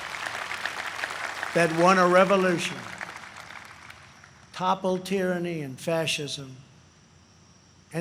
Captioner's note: applause